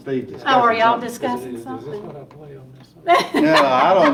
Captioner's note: laughing